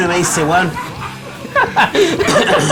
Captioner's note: laughs